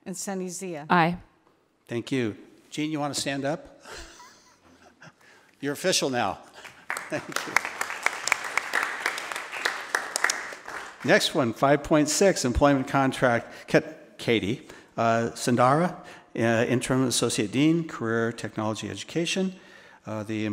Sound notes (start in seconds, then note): 4.2 laughs; 6.5 attendees applauding